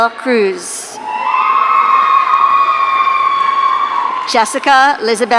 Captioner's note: audience cheering